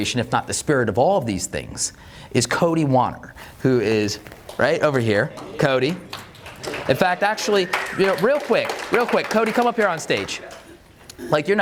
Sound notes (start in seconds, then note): 6.3 audience claps